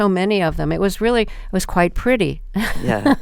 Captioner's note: laughter